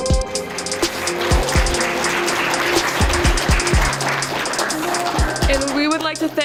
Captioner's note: applause